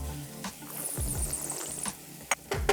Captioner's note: slurps